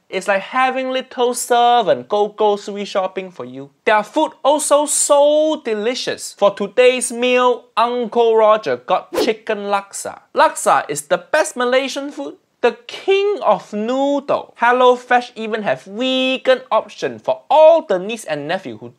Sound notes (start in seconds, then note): none